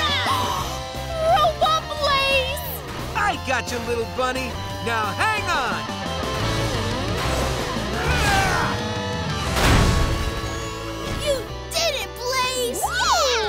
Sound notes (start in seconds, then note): 0.2 gasps; 7.9 grunting